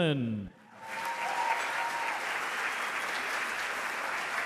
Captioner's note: audience applause